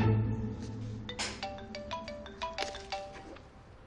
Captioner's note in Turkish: Telefon çalar